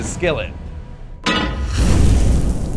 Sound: pan clanks; burst of flames

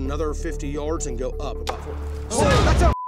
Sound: distant bang

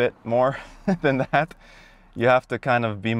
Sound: laughing

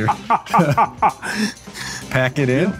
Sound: laughs

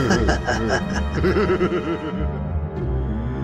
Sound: laughter

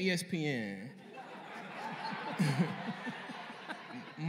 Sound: laughter

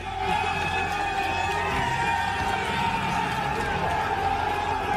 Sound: cheers

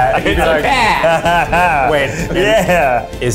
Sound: laughs

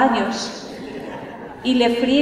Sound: laughter

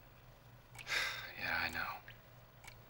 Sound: <i> sighs</i>

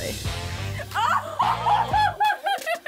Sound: laughs

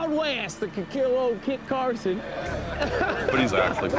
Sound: men laugh

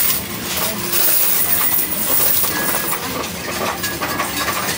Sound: coins rattling

